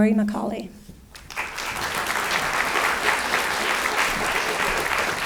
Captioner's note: audience clapping